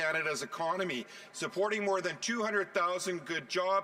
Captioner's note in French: voix de l'interprète